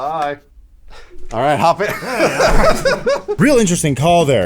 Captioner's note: laughter